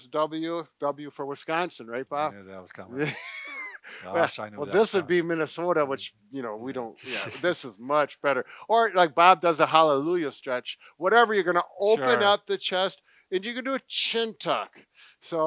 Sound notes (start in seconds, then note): 3.0 laughs